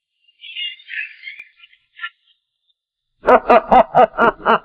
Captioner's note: laughing